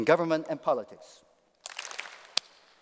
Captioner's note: applause